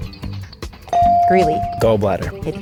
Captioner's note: bell dings